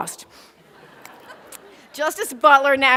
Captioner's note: laughter